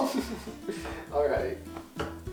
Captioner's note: fake laughter